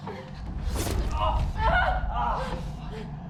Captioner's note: sound of metal against flesh, dripping of blood